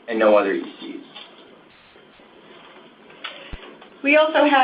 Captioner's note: silence